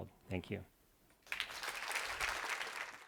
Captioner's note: applause